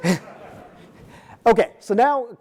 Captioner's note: audience laughing